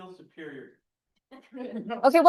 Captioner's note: laughter